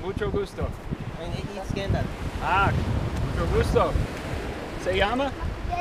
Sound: speaking foreign language

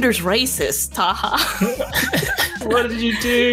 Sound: both laugh

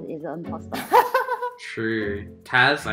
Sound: nervously laughing

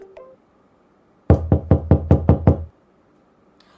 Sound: knock knock knock

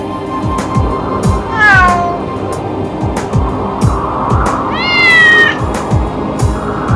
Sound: wind blowing; cat meowing

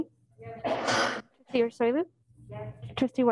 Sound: coughing

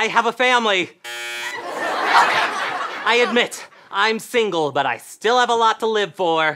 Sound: buzzing

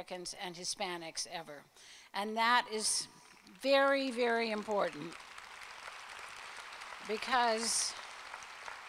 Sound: applause

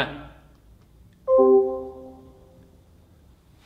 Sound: logoff ping

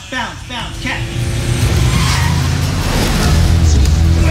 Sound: tires squealing

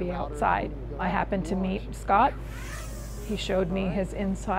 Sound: drone whizzing

